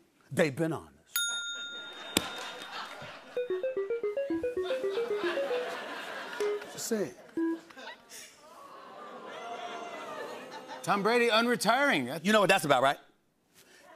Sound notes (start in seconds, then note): 1.6 bell dings; 7.9 crowd gasps